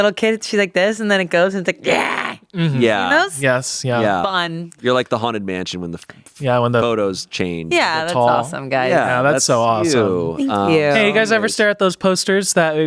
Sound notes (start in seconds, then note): 2.4 growls